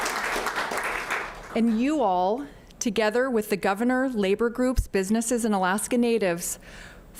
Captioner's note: applause